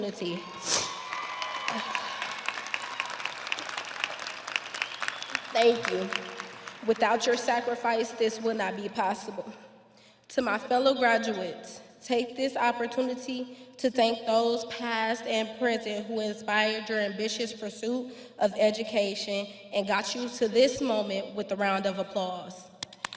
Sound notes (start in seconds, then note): 5.4 audience applauding; 5.4 audience cheering